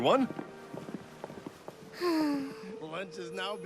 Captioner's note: sighs